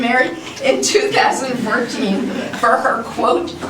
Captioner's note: laughter